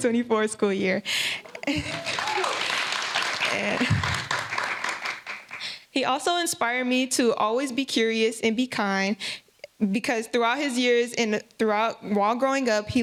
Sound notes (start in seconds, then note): 3.6 laughter; 6.2 applause